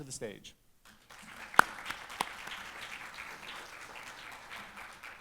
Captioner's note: audience applauds